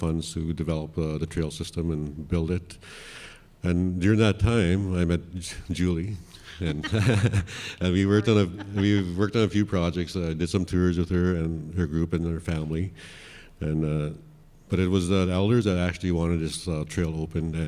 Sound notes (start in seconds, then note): 6.6 laughs